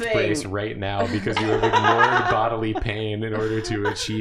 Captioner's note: laughing at carpal tunnel